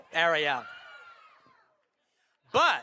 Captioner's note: fans screaming